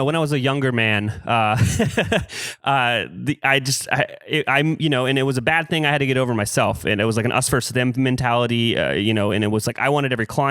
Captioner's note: laughs